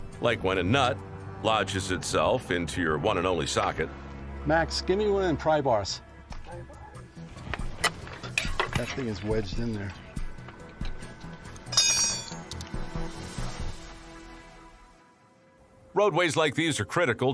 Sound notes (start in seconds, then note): 7.7 tool clicking; 11.7 tool clanking